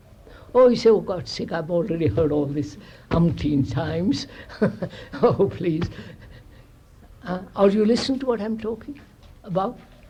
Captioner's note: chuckles